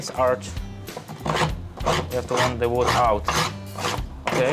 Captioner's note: scraping